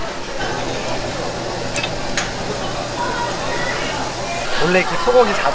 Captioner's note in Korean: 지글 지글